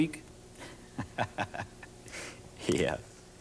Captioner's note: laughs